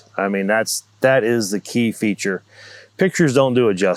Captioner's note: none